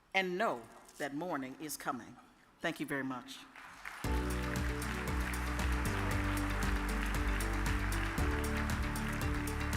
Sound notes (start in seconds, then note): 3.5 audience applauds; 4.0 upbeat music